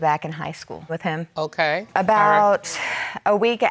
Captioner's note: sighs